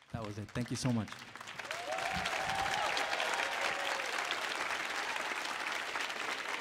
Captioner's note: audience applauds and cheers